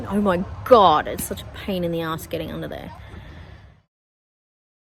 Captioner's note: sighs